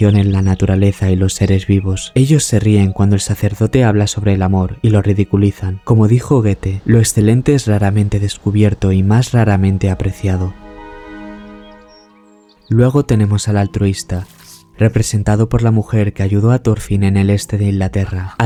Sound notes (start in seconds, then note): 11.6 birds and river